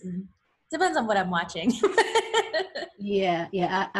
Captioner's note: laughs